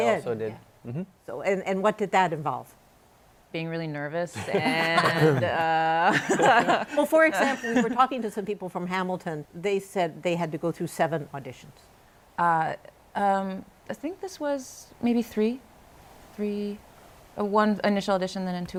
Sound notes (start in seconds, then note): 6.0 laughter